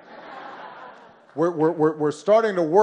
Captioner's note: laughter